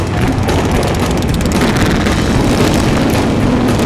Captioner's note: motorcycle engines running